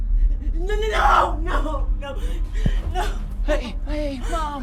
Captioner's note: dramatic music; crying